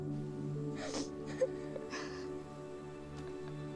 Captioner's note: both giggling